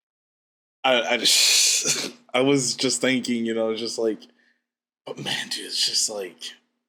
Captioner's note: laughs